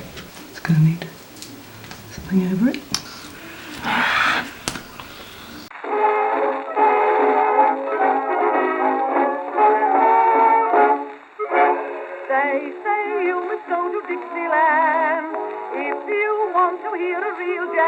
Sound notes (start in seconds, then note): 4.1 groaning